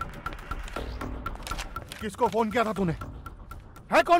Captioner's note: Guns clicking